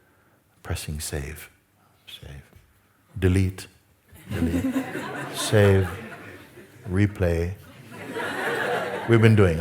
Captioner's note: laughter